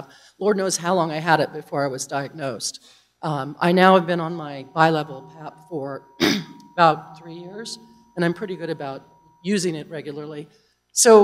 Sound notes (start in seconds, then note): 6.2 cough